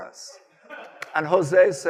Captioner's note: audience laughing